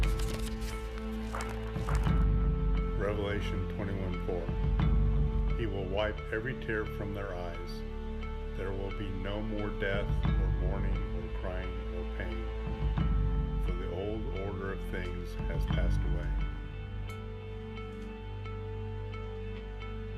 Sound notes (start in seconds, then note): 16.7 clicking; 17.7 rustling